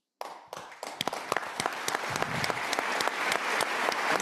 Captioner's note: audience applauding